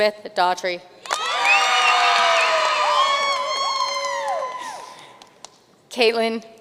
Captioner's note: audience cheering and applauding